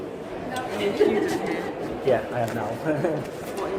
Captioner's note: laughing